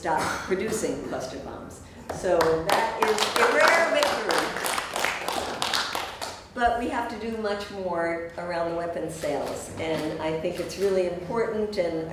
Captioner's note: applause